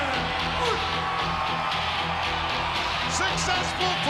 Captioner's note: crowd cheering; upbeat rock music